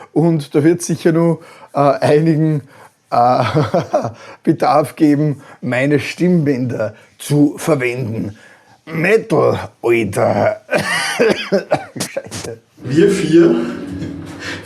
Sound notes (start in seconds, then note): 10.8 gasp, cough